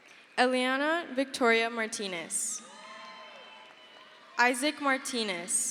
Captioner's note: crowd cheers